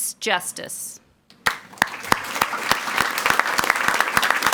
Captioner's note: people clapping